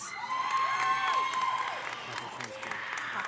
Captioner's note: audience cheering; audience applauding